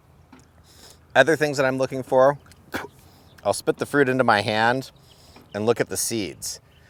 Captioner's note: spits